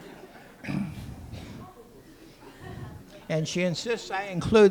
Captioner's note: laughter